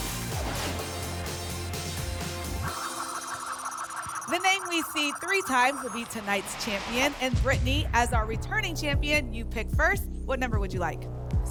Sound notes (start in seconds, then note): 0.0 whoosh; 2.7 spinning sounds